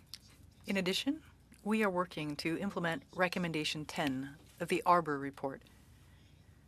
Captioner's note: speaking French